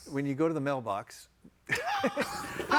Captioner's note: all laughing